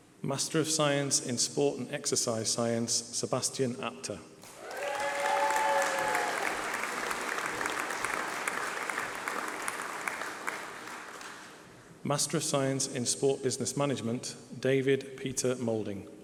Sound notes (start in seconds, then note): 4.4 applause